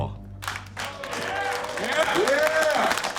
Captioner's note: everyone cheers and applauds